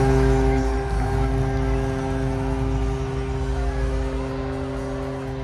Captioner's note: crowd cheering & horn